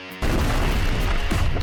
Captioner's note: explosion